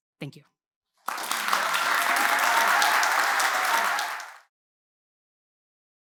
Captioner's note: cheers, applause